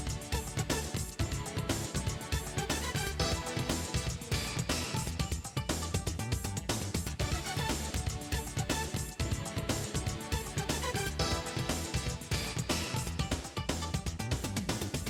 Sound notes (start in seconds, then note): none